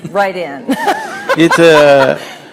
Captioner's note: laughter